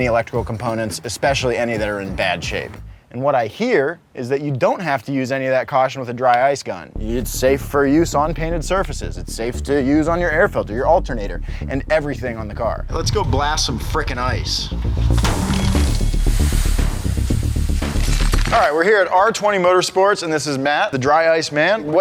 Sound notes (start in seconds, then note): 14.9 hood snaps; 16.0 quick bouncy music